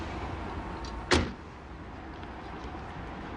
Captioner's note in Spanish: Bullicio en la calle; Portazo